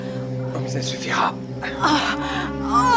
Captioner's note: grunts